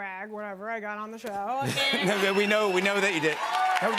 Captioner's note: laughter